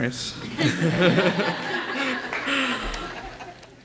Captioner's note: laughing